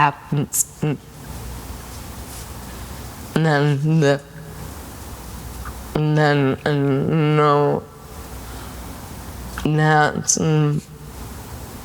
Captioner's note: Selma's speech slows; tongue clicks